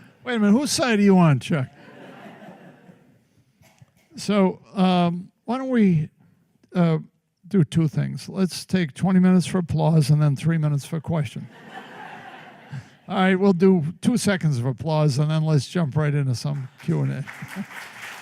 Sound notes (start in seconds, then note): 11.4 laughter